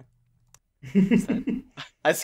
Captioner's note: laughter